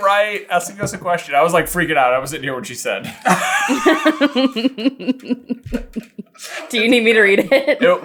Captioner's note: cracking up